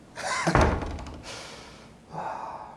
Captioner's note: door closes; Randall chuckles; Randall sighs